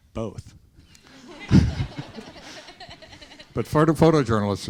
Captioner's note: students laughing